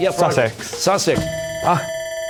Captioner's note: bell ringing, sighs